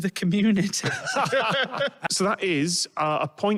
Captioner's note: chuckles